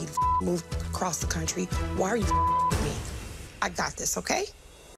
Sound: beep; beep

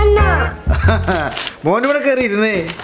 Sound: laughs

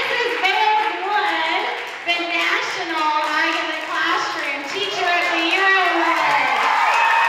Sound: laughs, cheering

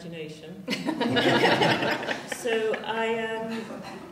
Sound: laughter

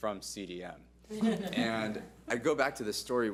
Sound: board laughs

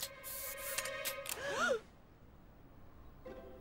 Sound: all gasping

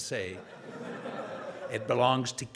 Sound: audience laughing

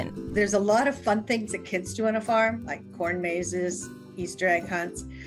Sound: none

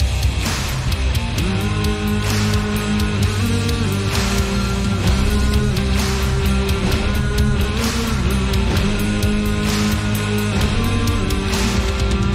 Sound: random humming intensifies

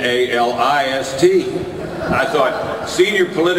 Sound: audience laughter

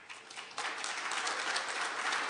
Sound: applause

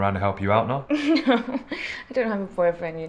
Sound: laughs

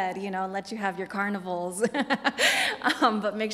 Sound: laughs

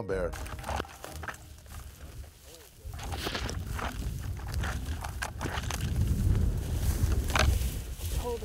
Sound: rustling sounds

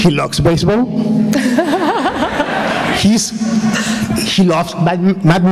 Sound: laughter

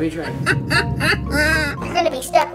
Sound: laughing

